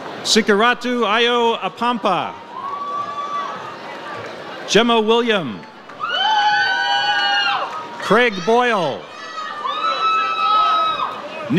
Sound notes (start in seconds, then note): 0.0 audience cheers; 4.8 audience cheers